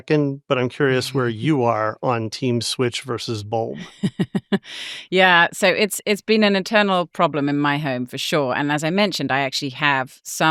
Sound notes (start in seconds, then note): 2.3 chuckles